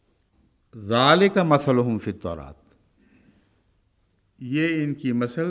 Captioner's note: Arabic